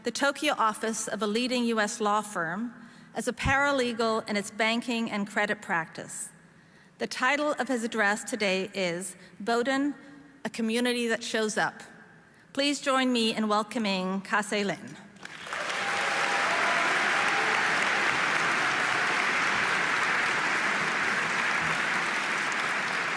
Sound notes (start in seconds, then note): 15.2 audience applauding; 15.2 audience cheering